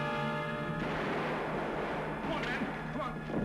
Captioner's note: gunshots